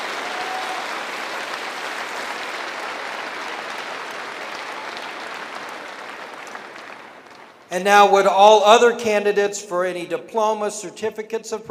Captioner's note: cheering and applause